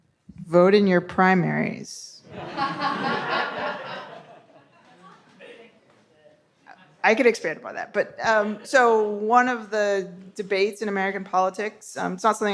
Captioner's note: audience laughs